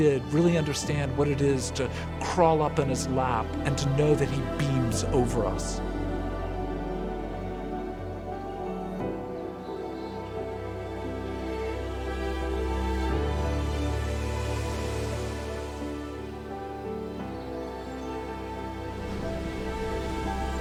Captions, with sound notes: but the few who did really understand what it is to crawl up in his lap and to know that he beams over us. (music increasing) (waves lapping)